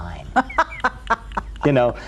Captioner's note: laughs